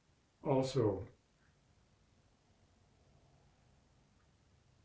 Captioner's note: pauses 6 seconds